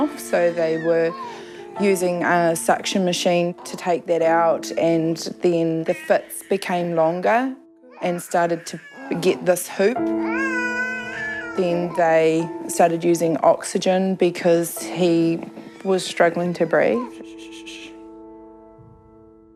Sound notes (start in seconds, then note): 9.6 cries